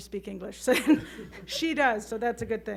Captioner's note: chuckling